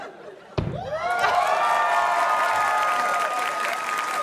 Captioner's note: scattered laughter; cheering, applause